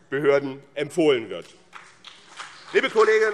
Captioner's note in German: Beifall BÜNDNIS 90/DIE GRÜNEN und vereinzelt CDU